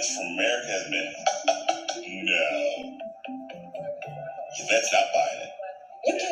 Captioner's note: laughs